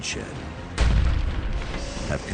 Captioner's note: gun fires